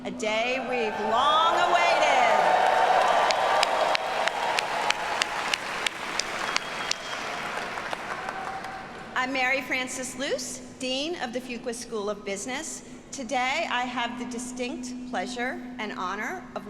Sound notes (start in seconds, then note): 1.8 audience cheering; 3.3 audience applauding